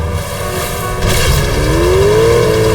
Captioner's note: thudding